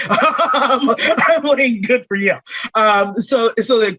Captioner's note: laughter